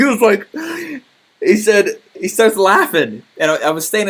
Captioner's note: laughing